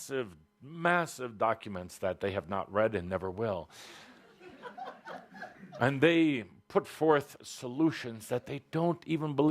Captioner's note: laughter